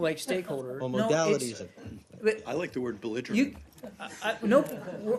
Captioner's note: laughter